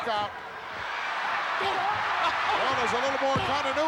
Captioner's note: audience cheering